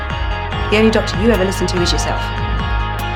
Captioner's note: voiceover